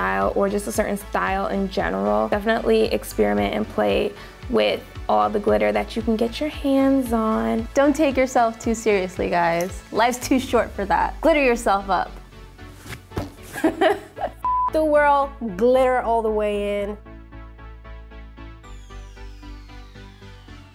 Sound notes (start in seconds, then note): 13.6 laughs; 17.1 upbeat electronic music